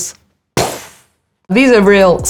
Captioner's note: imitates explosion sound